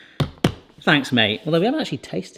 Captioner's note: taps bottle